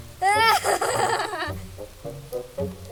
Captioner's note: laughs